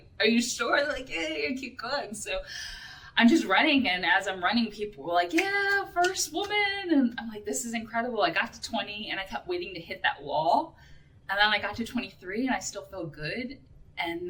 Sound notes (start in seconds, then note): none